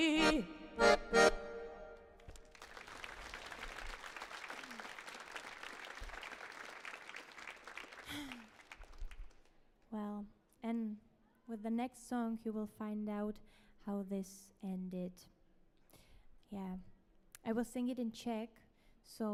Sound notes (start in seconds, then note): 2.2 audience applauds